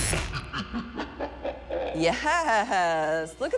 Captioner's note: upbeat music; monster laughs mischievously